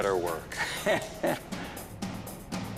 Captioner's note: chuckles